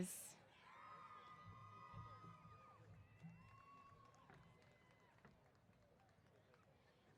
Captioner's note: cheers